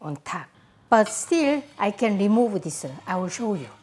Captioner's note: utensil clanking